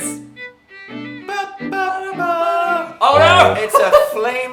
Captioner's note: humming along to the old tune; laughs